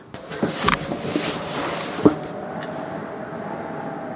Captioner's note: wind whistling